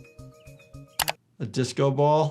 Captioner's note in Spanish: clics del ratón